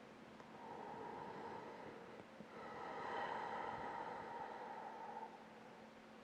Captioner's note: breathing